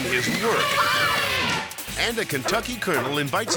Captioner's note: elephant trumpets